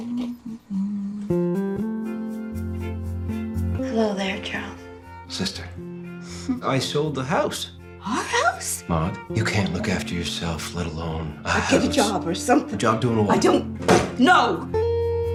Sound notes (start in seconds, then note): 6.2 laughs